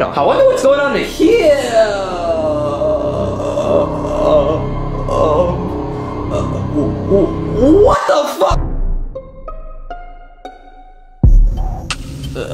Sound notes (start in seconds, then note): 3.5 Luigi stammering; 3.5 dramatic music; 8.6 suspenseful music